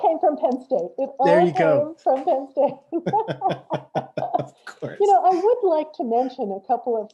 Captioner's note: laughs